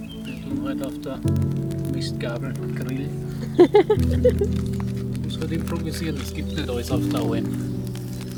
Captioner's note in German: gelächter